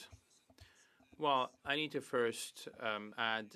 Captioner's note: speaking French